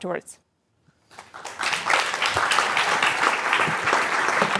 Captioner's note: applause